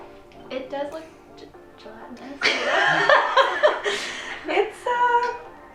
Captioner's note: laughing